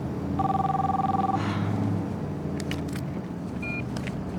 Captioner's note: phone ringing